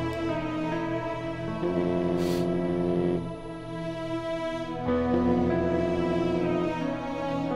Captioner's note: Phone vibrating